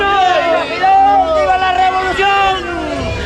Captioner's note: crowd